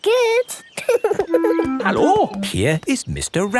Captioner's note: laughing